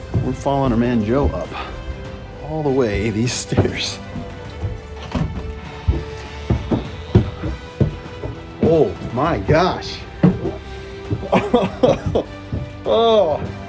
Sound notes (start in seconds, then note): 6.2 feet stomping; 11.2 chuckling